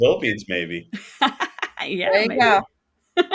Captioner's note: laughing